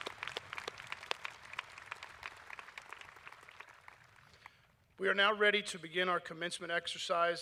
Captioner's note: applause